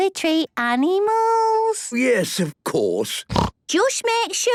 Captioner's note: snorts